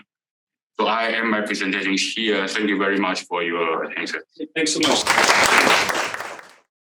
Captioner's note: applause